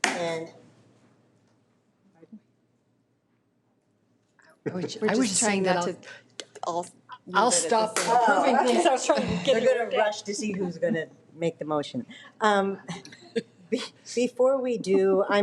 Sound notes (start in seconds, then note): 0.9 object thuds; 4.8 people chattering